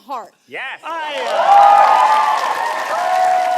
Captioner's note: audience cheers